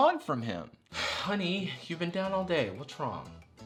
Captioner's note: sighs